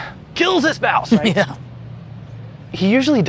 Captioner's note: laughter